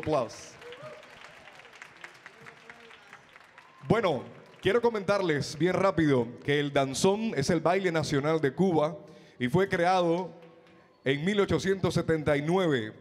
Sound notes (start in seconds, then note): 0.0 audience clapping; 4.1 MC speaking in Spanish